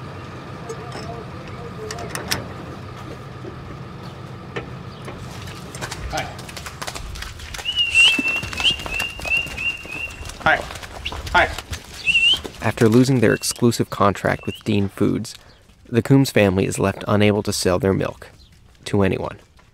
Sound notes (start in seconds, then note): 0.0 sounds of machines